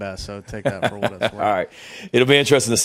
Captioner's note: Shane laughs